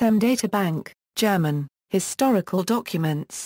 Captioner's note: German